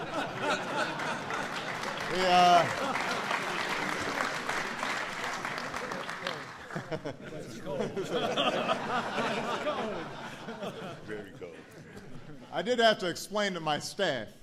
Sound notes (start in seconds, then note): 4.6 laughter and applause